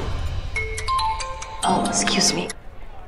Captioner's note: Phone ringing